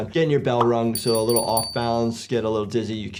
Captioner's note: bell dinging